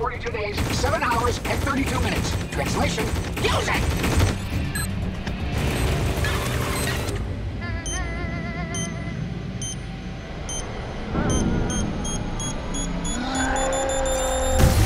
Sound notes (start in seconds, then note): 7.6 beeping